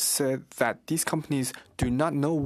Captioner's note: speaking French